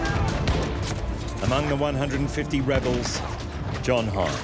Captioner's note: pistols firing; musket fires